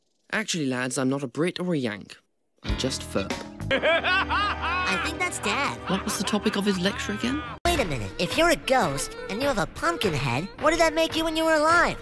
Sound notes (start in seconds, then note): 3.7 maniacal laughing in background